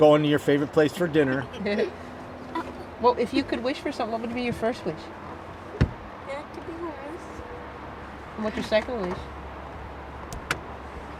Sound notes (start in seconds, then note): 1.0 giggling